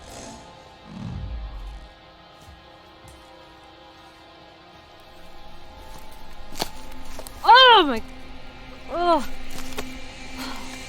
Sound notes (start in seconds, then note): 7.8 yelling